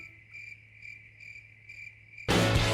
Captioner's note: crickets